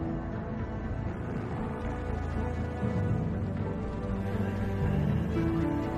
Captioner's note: helicopter engine rumbling